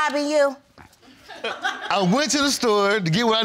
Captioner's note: audience laughs